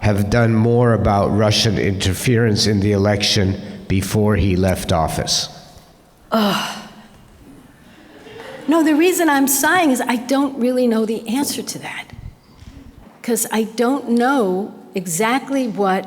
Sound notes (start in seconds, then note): 6.3 sighs